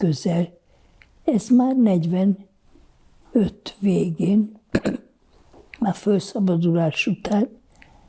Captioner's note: clears throat